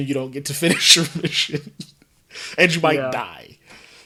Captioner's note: laughs